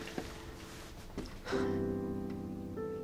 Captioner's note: sighs